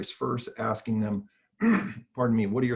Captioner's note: coughing